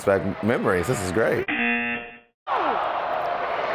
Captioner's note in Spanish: zumbador